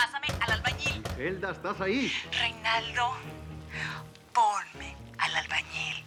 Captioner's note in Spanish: Toques en la puerta